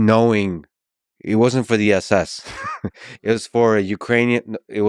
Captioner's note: laughs